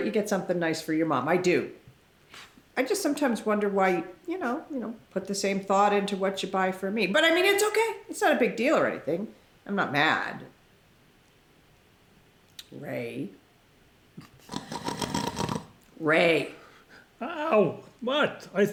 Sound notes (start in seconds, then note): 14.2 ray pretending to snore